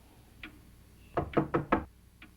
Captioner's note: door knock